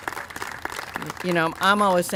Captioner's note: applause